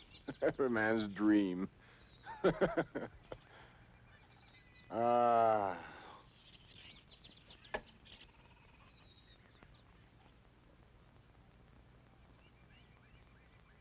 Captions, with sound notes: Every man's dream! (sighs)